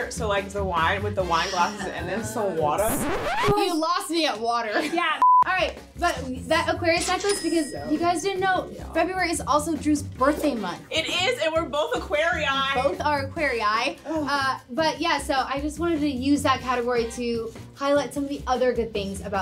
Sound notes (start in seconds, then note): 2.7 record scratch; 4.4 chuckles; 5.2 beep